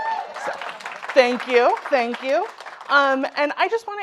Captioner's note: audience applauding